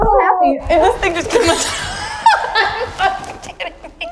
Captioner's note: laughing